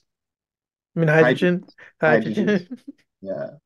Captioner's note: laughs